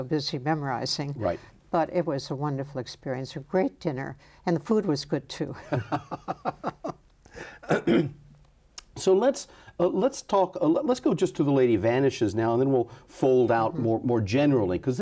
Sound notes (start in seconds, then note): 5.7 laughs